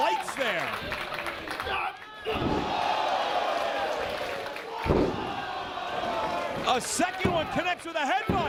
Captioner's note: applause